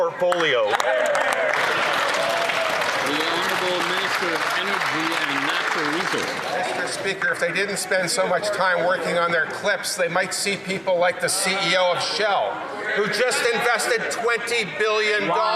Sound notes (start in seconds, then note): 6.4 some Applause